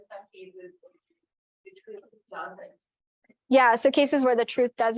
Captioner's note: student quietly talking